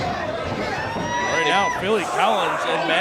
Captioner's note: crowd shouting